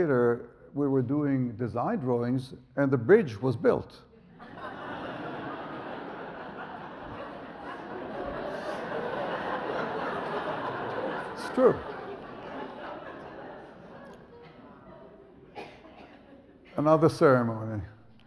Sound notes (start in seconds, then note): 4.4 audience laughs; 12.6 audience laughs